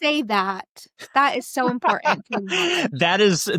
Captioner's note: laughs